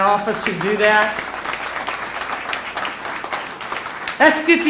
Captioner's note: applause